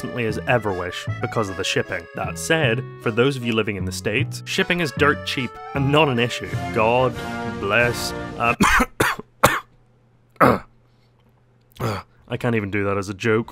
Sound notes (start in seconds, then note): 8.5 cough